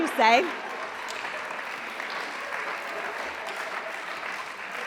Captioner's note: applause